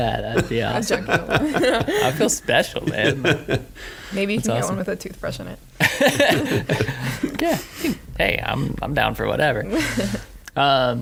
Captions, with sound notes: (laughing) - I feel special, man. - Maybe you can get one with a toothbrush in it. (laughing) - Hey, I'm down for whatever.